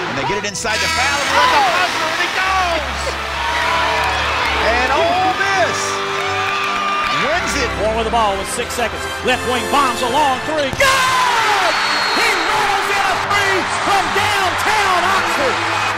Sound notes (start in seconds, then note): 0.2 voiceover; 3.4 cheering; 7.9 voiceover; 10.7 cheering